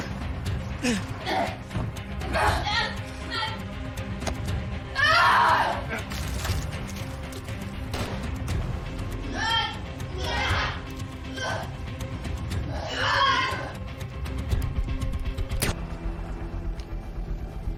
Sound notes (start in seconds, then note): 4.9 screaming; 7.9 gunshot; 8.3 groananing; 14.4 muffled gunshot